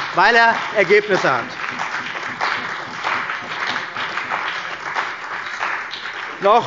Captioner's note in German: Beifall bei der CDU und dem BÜNDNIS 90/DIE GRÜNEN